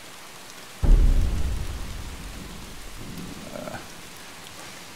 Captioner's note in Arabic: صوت الرعد